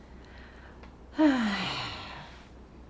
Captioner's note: sighing